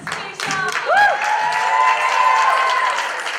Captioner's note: applause